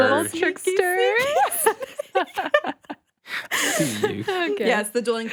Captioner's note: group laughing